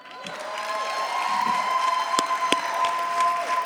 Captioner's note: audience cheers